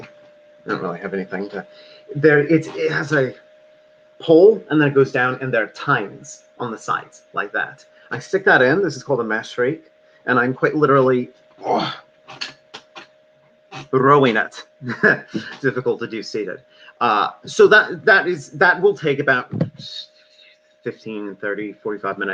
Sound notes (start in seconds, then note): 11.6 grunts; 14.8 laughs